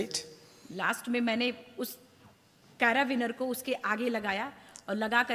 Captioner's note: speaks foreign language